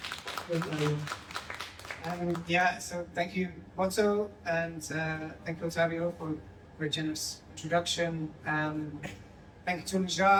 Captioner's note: applause